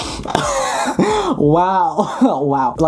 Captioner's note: laughing